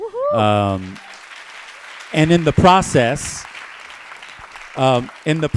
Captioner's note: applause